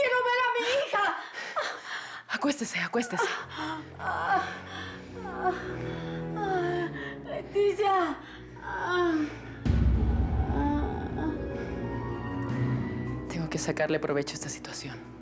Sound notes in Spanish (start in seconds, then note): 4.8 Quejidos